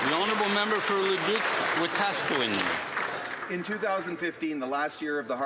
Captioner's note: applause